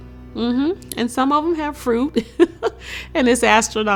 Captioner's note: chuckles